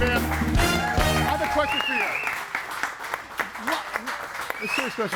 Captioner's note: audience applauds and cheers